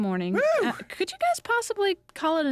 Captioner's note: cheers